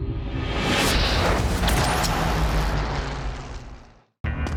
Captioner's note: whooshing sounds